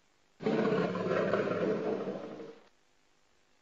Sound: jaguar roaring

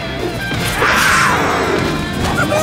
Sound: roaring

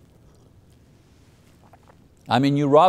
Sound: water gurgling

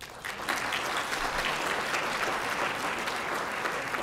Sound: applause

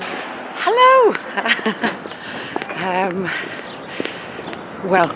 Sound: laughs

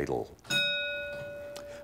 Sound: ding

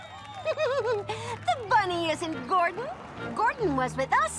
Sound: giggles

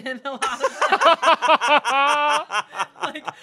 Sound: everyone laughs

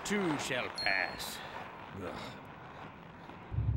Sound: groans

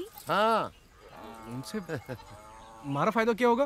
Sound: laughs

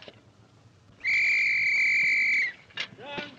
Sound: whistle blows

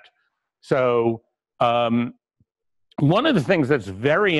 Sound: pause

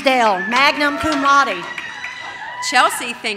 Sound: audience cheers

